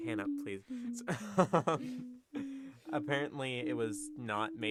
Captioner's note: humming